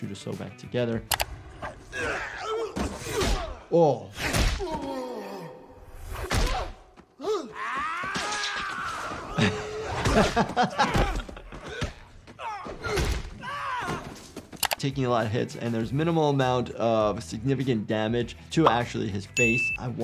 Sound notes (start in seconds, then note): 1.9 Green Goblin grunting; 4.2 punch lands; 4.6 Spider-Man groaning; 7.2 Green Goblin yelling; 7.7 web firing; 9.2 laughs; 12.4 blows landing; 13.5 Spider-Man yells